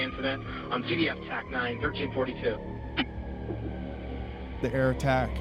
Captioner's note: radio